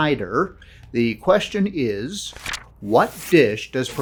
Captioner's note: page turning